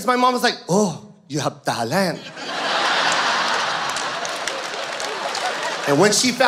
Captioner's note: audience laughs